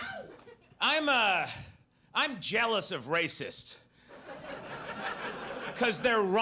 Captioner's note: audience laughs